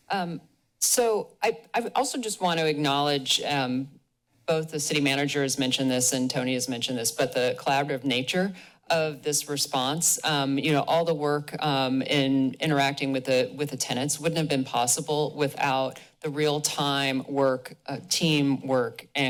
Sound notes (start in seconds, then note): none